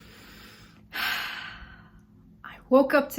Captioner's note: breathes